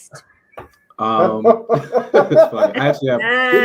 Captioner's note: laughter